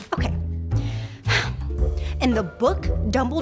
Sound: exasperated sigh

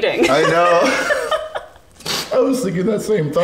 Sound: both laughs

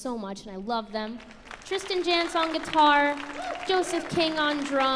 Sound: audience applauds

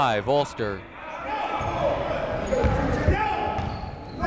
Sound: shouting

